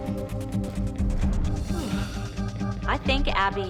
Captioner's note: Abby yawns